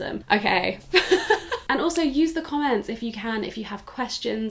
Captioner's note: laughs